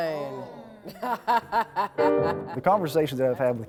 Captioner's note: laughs